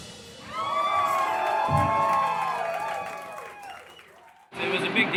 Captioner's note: cheering and applauding